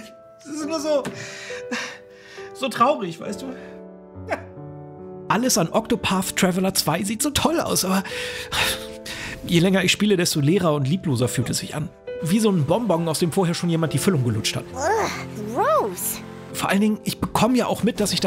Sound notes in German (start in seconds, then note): 4.0 Schluchzen; 8.2 Seufzen